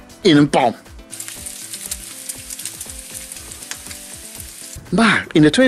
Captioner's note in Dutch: geluid van spek in een pan